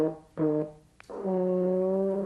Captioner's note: makes trombone noises